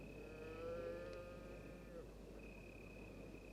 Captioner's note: moo!